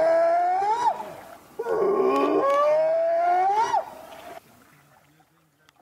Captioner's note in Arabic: صوت بيج فوت